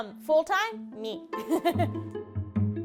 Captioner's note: chuckling